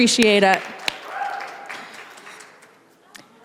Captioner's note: applause